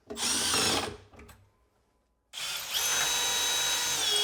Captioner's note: tool whirring